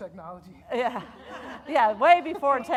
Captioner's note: audience laughing